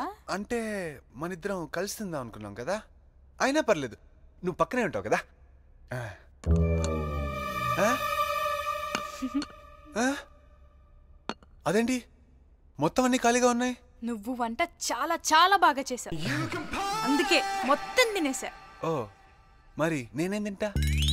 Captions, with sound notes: I thought we decided to eat together. But it's fine. You can sit with me. (Chuckles) Why are the dishes empty? The food was very delicious. So, I ate all of it. Oh. What will I eat now?